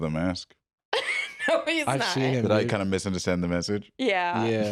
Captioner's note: laughs